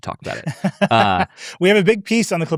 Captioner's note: laughs